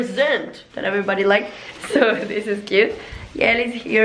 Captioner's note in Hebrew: צוחקת ברקע